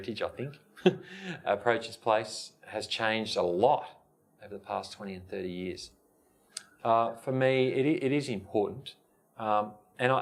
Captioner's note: laugh